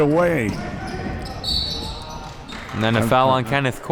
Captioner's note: whistle is blown